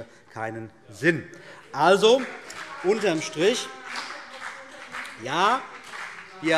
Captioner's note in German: Beifall CDU und BÜNDNIS 90/DIE GRÜNEN